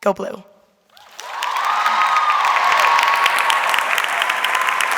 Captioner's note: audience cheering